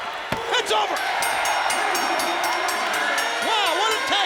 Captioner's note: bell rings